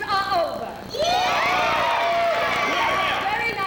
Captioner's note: cheering